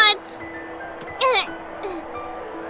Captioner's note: painful groan